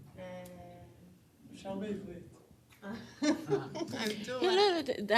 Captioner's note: non-english speech